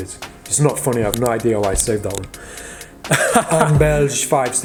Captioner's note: chuckling